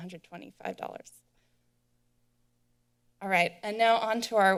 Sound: silence

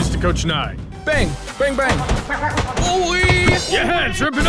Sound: bang

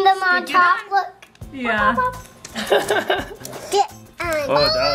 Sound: laughing

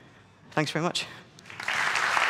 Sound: applause

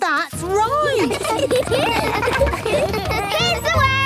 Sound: laughter

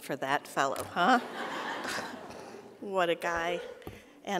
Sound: audience laughing

